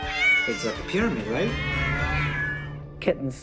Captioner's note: cats meowing